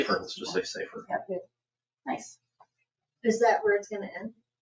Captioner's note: people chattering